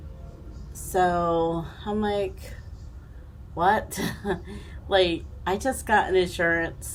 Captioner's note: chuckling